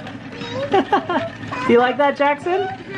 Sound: laughing

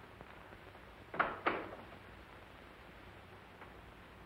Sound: door shuts

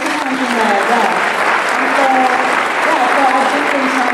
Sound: applause

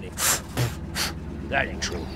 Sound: spitting

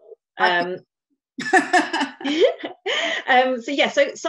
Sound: laughter

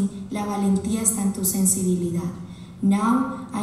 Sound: speaking Spanish

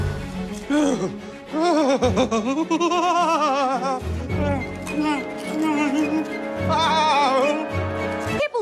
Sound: laughing while eating Cheetos

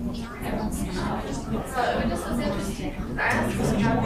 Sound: talking

